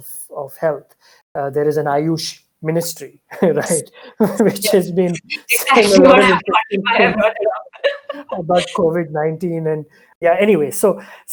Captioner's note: both laugh